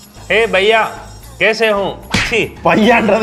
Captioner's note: speaks Hindi